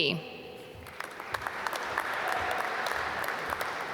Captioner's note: applause